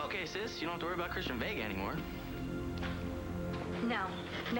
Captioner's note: door closes